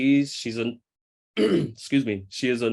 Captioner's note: clears throat